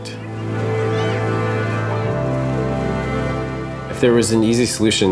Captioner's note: kids shouting